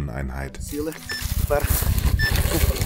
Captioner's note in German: Pieptöne